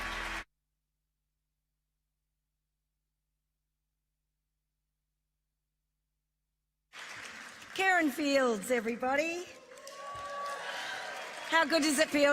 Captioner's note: applause